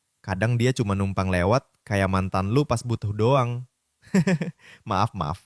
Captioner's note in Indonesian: tertawa